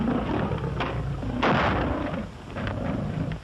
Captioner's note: gunshot